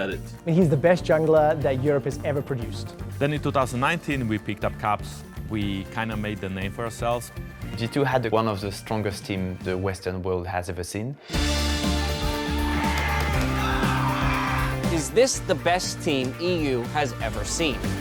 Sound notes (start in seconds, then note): 11.3 upbeat music playing; 11.7 cheering and yelling